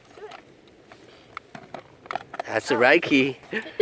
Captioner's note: lock opens; laughter